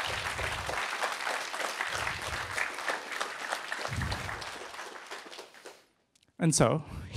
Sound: applause

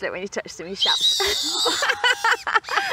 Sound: owl screeches; both laugh

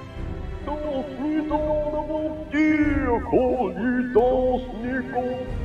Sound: otherworldly gibberish

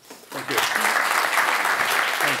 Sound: applause

